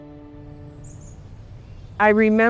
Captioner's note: birds chirping